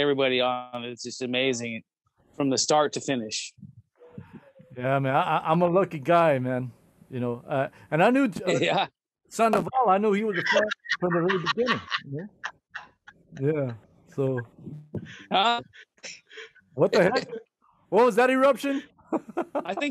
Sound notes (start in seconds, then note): 10.2 laughter